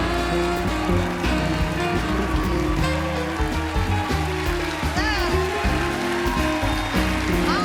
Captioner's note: band playing; cheers and applause; band playing; cheers and applause